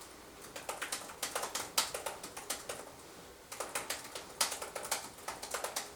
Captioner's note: clicking of keyboard keys